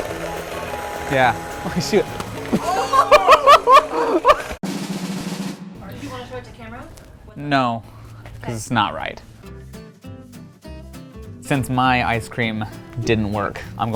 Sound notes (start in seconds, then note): 0.0 electric mixer beating; 2.4 laughing